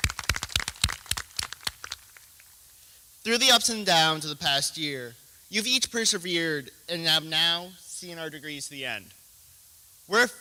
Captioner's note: applause